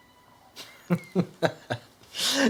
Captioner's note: laughing